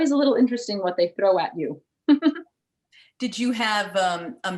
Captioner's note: chuckles